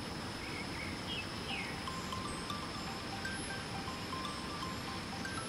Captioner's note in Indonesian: Dering HP berbunyi